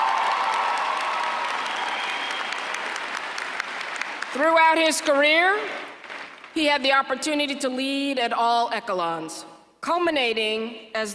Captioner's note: applause